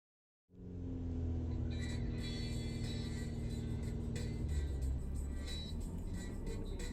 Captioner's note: car engine revving; upbeat music